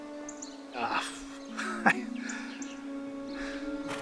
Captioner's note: Jerry stammering